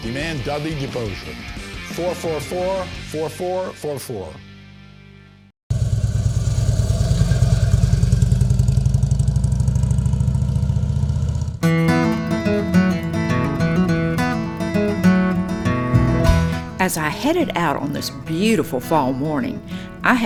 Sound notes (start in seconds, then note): 5.7 engine humming; 11.8 folk music